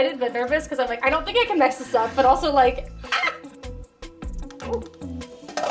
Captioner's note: pterodactyl screech